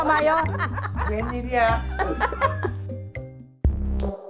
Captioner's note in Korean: ㅋㅋㅋㅋㅋㅋㅋㅋㅋㅋㅋㅋ